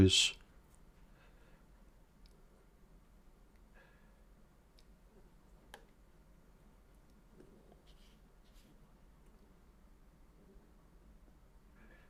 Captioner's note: silence